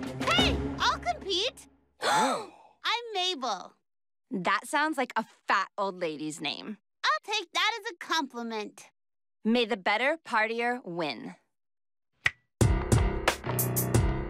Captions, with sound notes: HEY! I'LL COMPETE! ( both gasp ) I'M MABEL. THAT SOUNDS LIKE A FAT OLD LADY'S NAME. I'LL TAKE THAT AS A COMPLIMENT. MAY THE BETTER PARTIER WIN. ( snaps fingers )